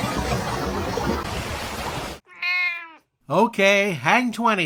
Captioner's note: meow!